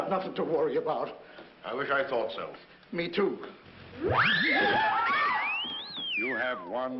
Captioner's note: whooshing